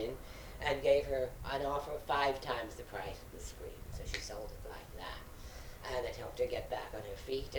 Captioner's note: snaps